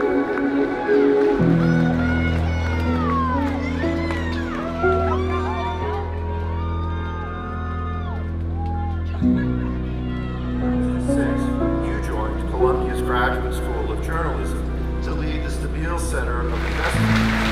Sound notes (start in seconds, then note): 4.7 cheers